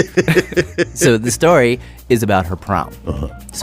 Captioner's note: laughs